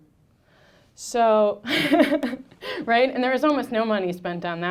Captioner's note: laughing